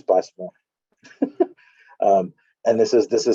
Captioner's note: chuckle